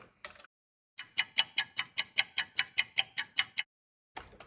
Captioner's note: sound of a ticking clock